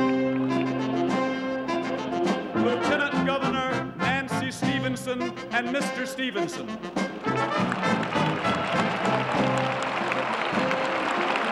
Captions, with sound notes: Lieutenant Governor Nancy Stevenson and Mr. Stevenson. [applause]